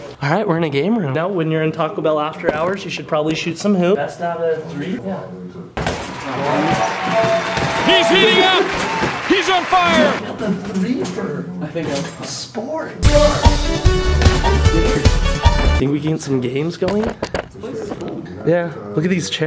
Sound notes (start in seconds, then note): 6.0 applause; 13.0 upbeat music